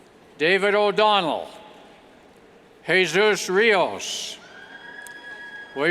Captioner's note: cheers